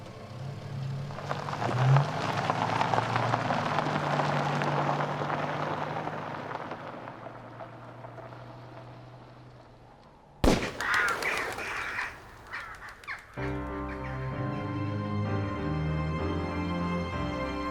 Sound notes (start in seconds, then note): 10.4 gunshot blasts; 10.4 birds cawing